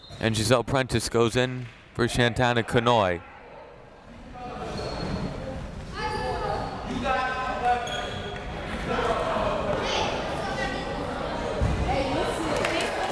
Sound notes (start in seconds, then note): 0.0 whistle tweeting; 4.9 crowd members shouting